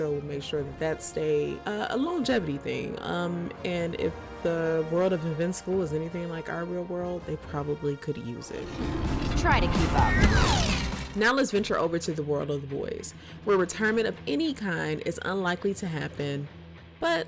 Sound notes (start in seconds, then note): 8.4 Atom Eve swooshing